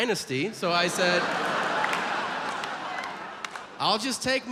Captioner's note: audience laughs